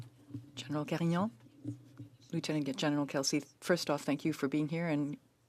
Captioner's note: speaking French